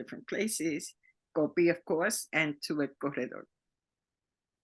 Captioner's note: speaking Spanish